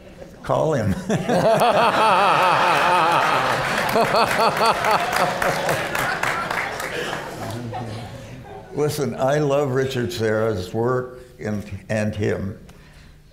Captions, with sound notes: Call him. [LAUGHTER] Listen, I love Richard Serra's work and him.